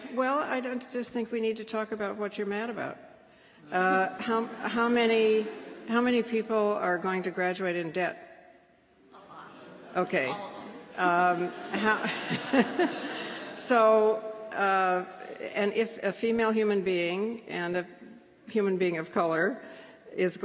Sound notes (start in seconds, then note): 11.3 laughter